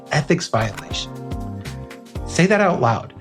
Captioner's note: pop